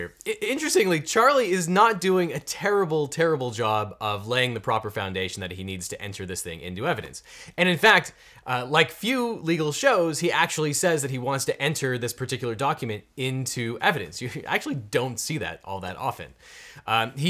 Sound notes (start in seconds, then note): none